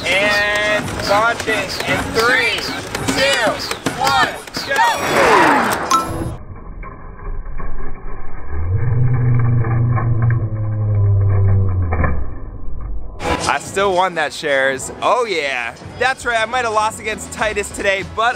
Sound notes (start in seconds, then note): 5.8 dings; 6.2 slow-motion screaming; 6.8 rattling